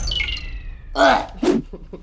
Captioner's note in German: Ekelgeräusch